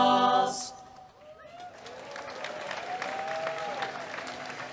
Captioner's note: applause